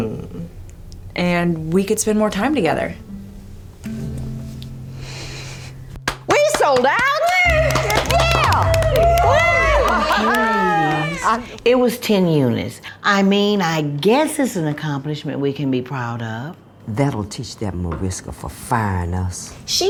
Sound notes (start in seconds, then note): 6.4 cheering and clapping